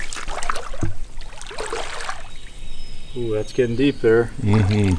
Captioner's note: water sloshing